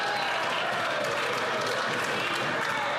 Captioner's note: some Applause